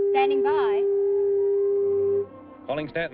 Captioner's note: tool buzzing